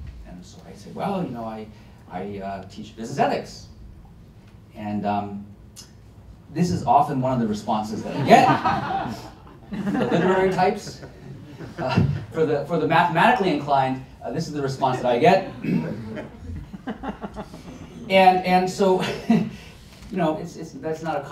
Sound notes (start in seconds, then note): 8.0 laughter